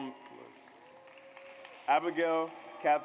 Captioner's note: audience applauds